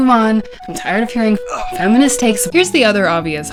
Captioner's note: grunt